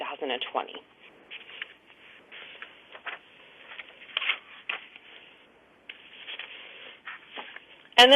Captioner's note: pause